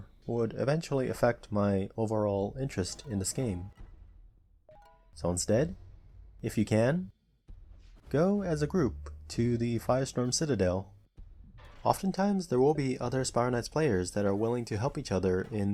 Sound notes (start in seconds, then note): 8.1 background Car Noises, sorry